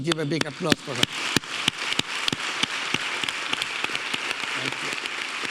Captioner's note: audience applauding